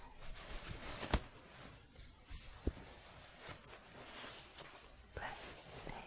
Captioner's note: shuffling